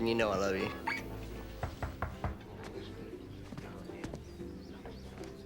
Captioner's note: knocking on door